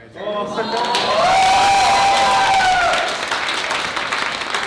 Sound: applause and cheering

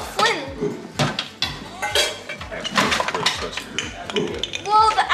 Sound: cutlery clattering

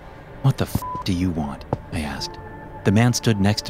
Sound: beep

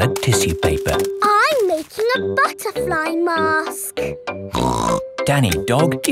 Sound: snorts

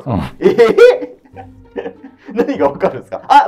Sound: laughing

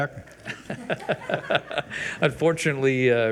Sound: people laugh

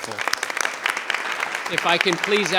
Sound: audience applauds

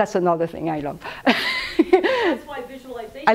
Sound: laughs

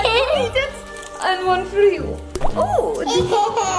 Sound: onions plops

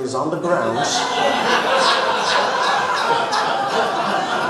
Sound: audience laughs

